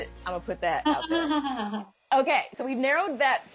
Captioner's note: laughter